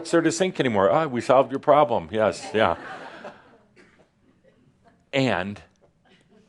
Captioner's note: some laughter